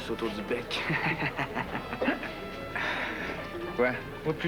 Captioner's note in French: Rire